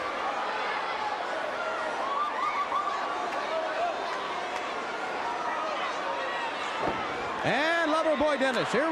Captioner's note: crowd cheering